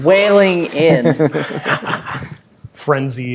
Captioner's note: players laughing